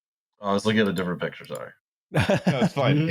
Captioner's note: mouse clicks; laughter